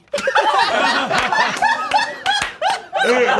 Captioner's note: all laughing